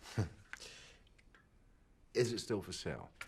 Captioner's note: Rob chuckles